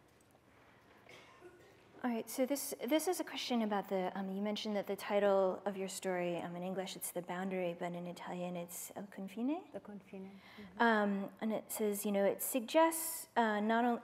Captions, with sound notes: All right, so this is a question about the-- you mentioned that the title of your story in English, it's "The Boundary," but in Italian, it's [ITALIAN].. - [SPEAKING ITALIAN] - And it says, it suggests--